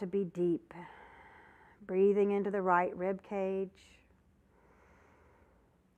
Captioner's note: breath sound